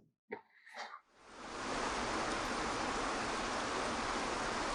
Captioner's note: laughs; waterfall rushes